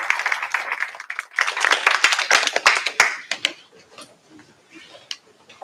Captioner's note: applause